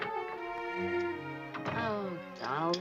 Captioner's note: door closes